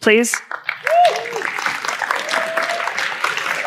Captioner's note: applause